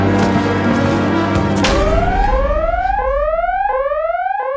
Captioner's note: alarm hoots